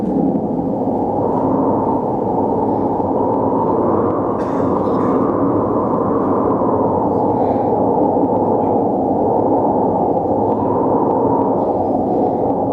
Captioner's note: wind